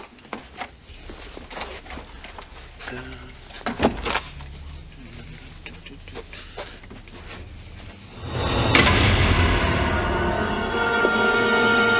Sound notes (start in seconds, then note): 2.6 Paul hums; 8.0 suspensful music